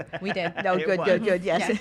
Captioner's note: laughs